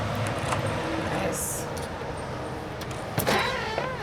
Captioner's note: lock clicks; door creaks